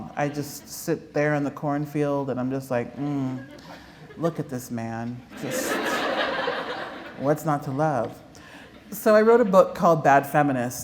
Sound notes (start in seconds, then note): 5.3 laughter